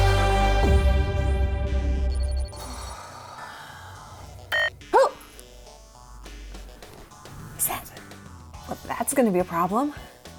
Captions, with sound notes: [SIGHS] [COMPUTER BEEPS] Oh! Is that-- Well that's going to be a problem.